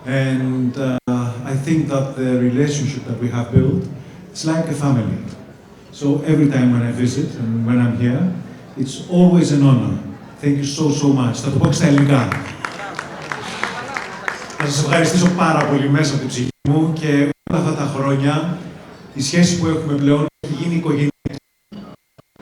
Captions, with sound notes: And I think that the relationship that we have built is like a family. So every time when I visit and when I'm here, it's always an honor. Thank you so, so much. (speaking in foreign language) I want to thank you from my soul And all these years The relationship we have, has become family